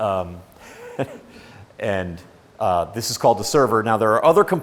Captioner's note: chuckles